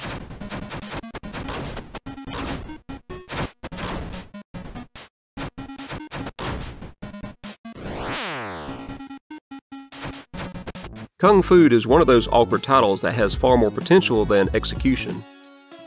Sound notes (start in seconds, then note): 1.0 game sounds